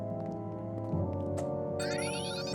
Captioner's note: tense music; monitor beeping